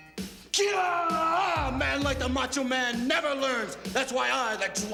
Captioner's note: yells